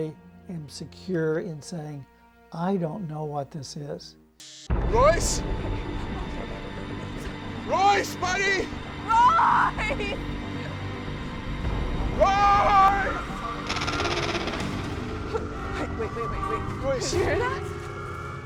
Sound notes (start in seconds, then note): 13.5 animal chittering